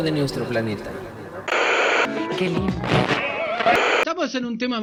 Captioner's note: radio tune